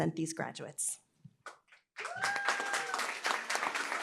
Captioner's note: applause, cheering